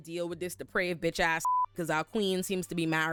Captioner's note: beep